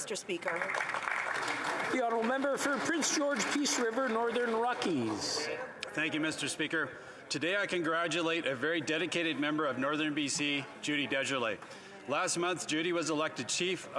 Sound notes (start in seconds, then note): 5.1 some Applause